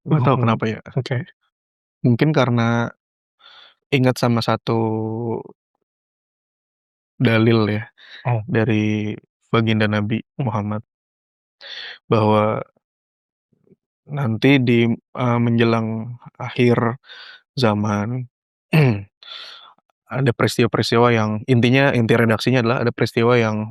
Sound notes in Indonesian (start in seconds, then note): 18.7 berdehem